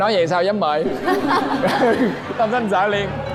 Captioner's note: laughter